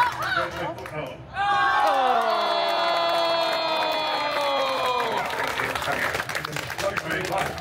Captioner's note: guests cheering and applauding; guests gasping loudly